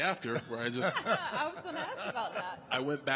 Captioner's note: The Undertaker laughing